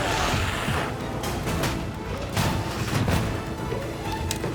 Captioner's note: glowzies growling